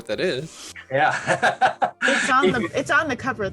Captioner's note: laughs